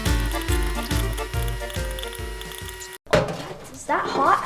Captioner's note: popcorn crackles